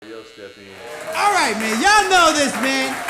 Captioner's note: audience applauding